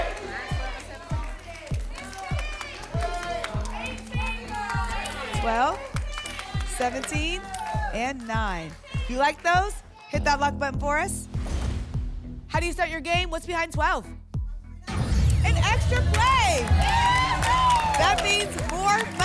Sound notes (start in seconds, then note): 2.6 audience shouting numbers; 11.3 whoosh; 11.4 thump; 14.9 boom; 16.9 applause and cheering